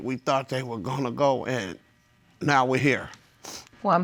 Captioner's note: sniffs